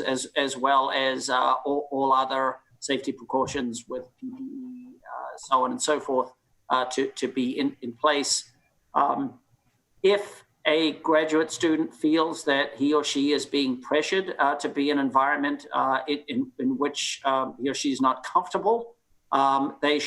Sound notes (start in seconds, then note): 3.3 microphone cuts out